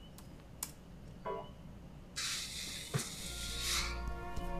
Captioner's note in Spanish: Pitido; Soplido